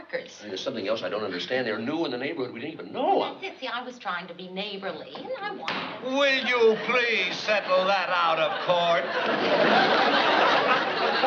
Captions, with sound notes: There's something else I don't understand, they're new in the neighborhood. We didn't even know them. That's it. See, I was trying to be neighborly. And I wanted-- [BANG] Will you please settle that out of court?